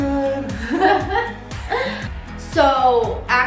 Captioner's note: laughs